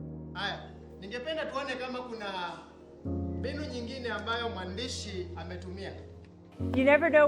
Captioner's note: speaking in foreign language